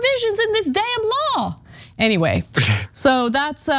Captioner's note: laugh